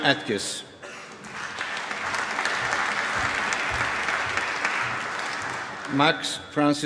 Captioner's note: applause